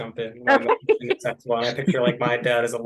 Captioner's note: laughing